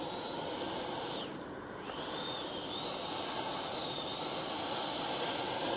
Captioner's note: engine noise